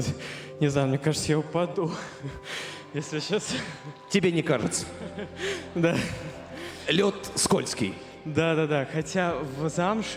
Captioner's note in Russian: смех